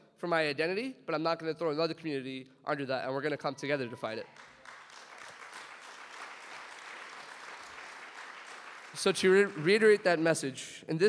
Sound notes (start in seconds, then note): 4.3 audience applauds